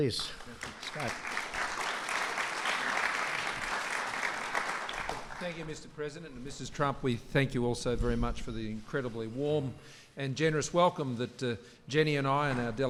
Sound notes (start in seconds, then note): 0.1 applause